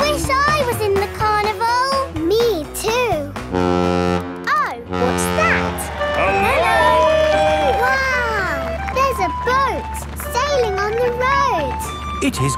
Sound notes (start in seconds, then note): 4.8 horn bellowing